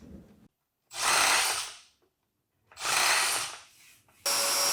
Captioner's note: machine whirring